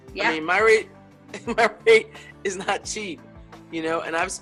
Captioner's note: laughs